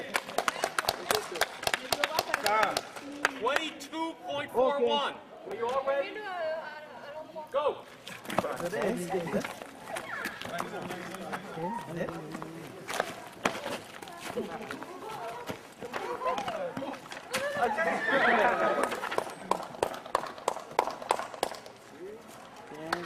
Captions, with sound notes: (speaking in French, clapping) - 22.41. Are you all ready? Go! (soft speech) (clapping)